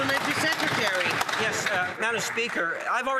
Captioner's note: some Applause